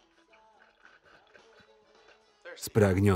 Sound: slurping

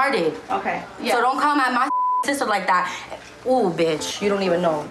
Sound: beep

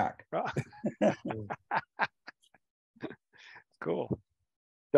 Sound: laughs

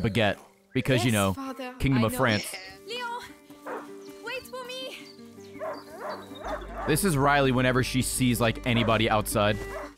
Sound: dog barking

